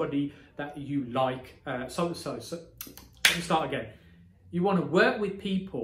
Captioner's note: claps